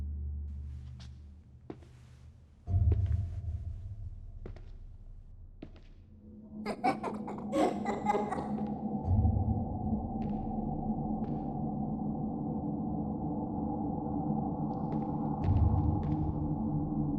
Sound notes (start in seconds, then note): 6.4 ominous music; 6.6 kids giggling